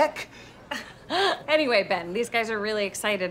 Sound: laughs

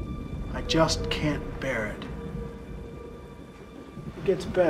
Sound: none

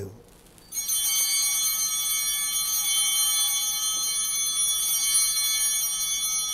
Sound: chimes ringing

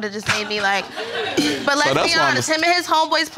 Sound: all laughing

